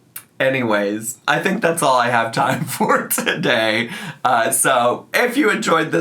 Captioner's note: laughs